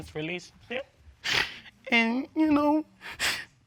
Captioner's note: cries